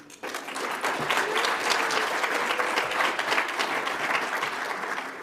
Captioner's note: audience applauds